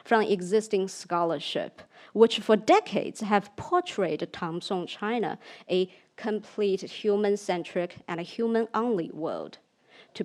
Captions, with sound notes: from the existing scholarship, which for decades have portrayed (speaks in foreign language) China a complete human centric and a human only world.